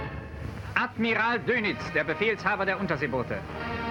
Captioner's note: archival male voice speaking in German